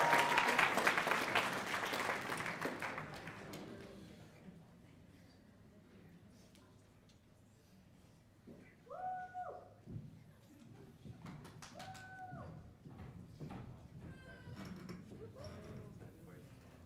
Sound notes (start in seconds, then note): 4.2 cheers and applause